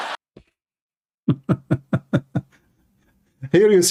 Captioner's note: Ketawa